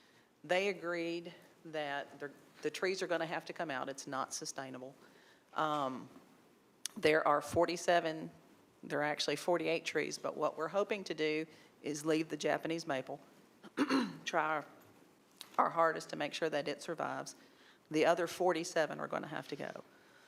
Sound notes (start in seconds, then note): 13.7 clears throat